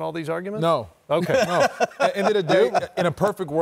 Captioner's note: laughter